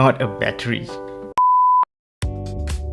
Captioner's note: beep